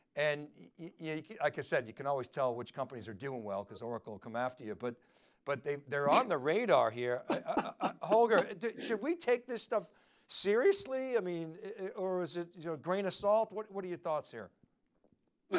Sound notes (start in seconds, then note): 7.2 laughing